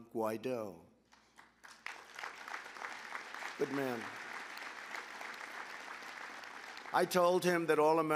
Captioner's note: applause